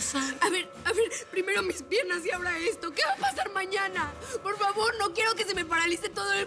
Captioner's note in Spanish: sollozos